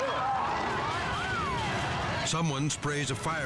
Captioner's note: people shouting